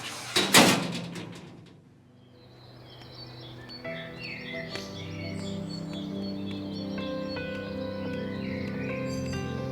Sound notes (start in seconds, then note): 1.9 birds chirping